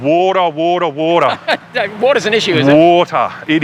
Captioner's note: laughs loudly